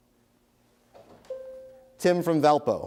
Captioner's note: bell rings